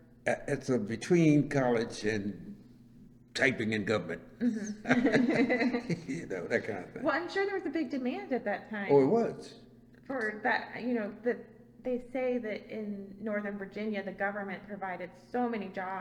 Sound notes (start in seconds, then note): 4.4 laughs